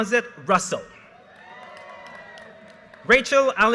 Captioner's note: audience cheers and applause